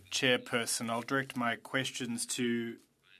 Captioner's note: speaking French